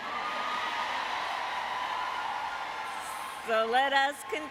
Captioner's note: applause